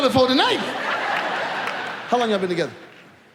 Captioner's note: audience laughs